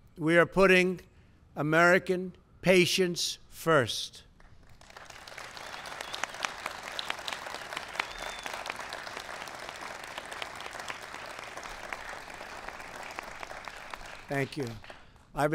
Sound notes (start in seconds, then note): 4.4 applause